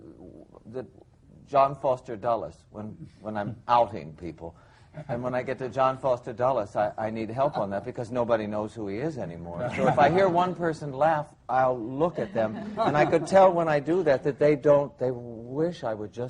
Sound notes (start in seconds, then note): 9.6 laughing